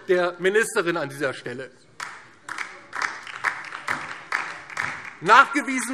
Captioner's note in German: Beifall DIE LINKE